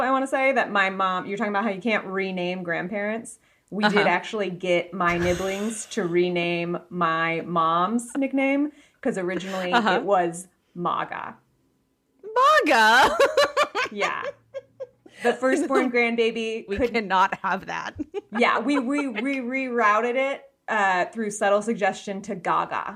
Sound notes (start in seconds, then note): 13.9 cackling